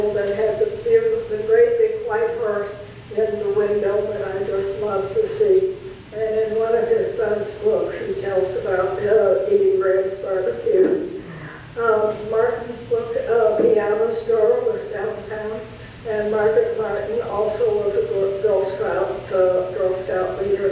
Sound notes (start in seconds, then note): 2.4 speaker turns away from microphone